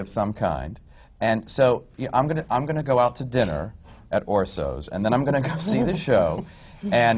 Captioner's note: laughter